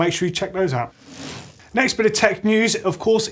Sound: bicycle wheel whirring

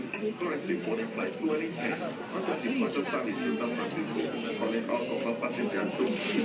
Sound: announcement in foreign language

